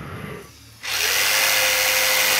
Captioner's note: machine drone